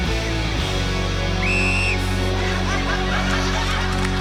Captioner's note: blows whistle